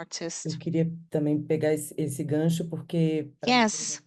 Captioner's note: speaking Portuguese